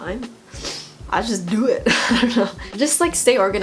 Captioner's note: laughs